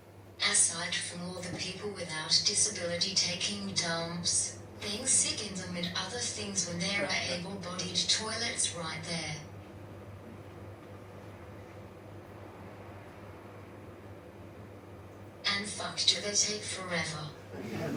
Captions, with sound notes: Aside from all the people without disability taking dumps, being sick in them and others things when there are able-bodied toilets right there. And fuck, do they take forever. (Audience laughs)